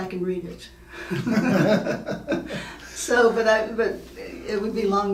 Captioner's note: laughing